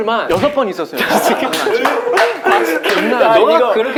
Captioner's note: laughing